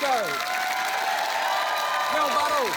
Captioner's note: cheering, applause